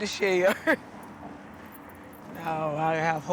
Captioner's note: laughter